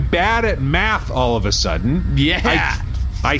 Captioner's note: excited